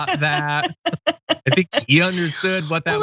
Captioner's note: laugh